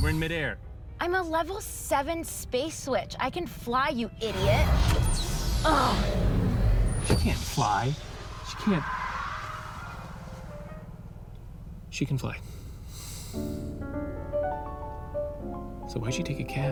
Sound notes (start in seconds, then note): 12.4 sighs